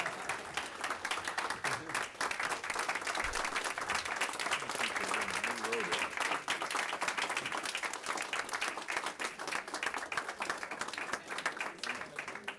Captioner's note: applause